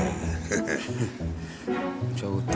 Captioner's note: malicious laughter